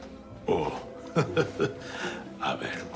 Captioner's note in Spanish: Risas